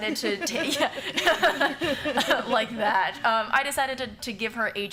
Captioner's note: laughter